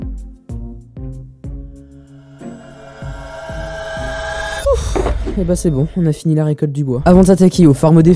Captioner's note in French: soupir